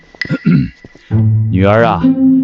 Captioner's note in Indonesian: batuk